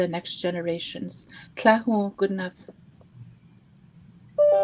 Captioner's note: speaking Indigenous language